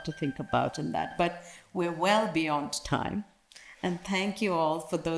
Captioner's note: alarm ringing